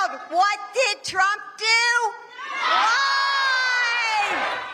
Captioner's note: cheers and applause